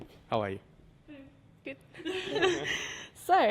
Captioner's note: laughs